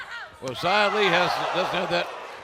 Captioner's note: laughter